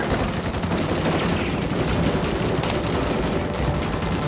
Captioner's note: guns firing